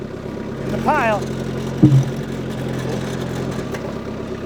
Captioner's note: wood clunking; yelling